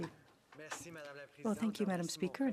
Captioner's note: speaking French